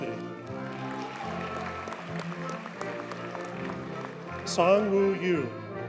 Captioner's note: audience cheers and applauds